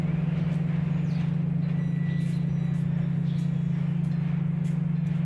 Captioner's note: sound of subway train overhead